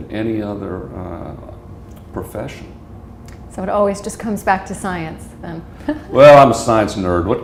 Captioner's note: chuckle